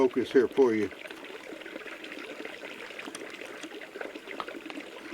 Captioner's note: water babbling